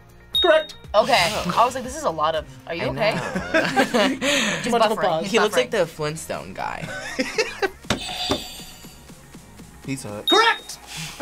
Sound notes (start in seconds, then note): 2.9 both laugh; 6.8 React laughs; 10.3 buzzer rings